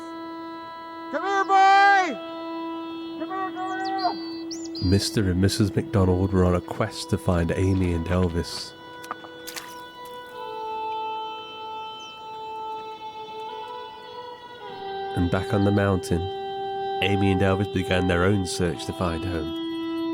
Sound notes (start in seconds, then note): 8.9 water splashes; 9.0 rock clunks; 11.7 somber tonal music